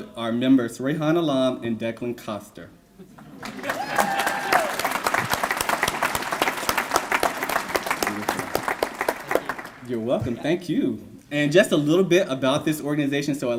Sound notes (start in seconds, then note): 3.3 applause